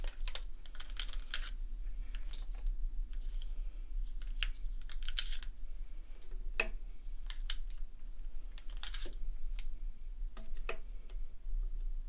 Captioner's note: rummaging markers